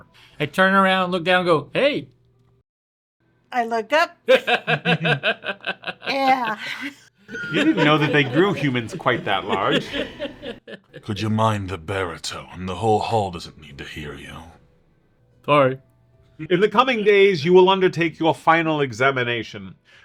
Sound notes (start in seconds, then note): 4.4 laughs in background; 10.3 group laugh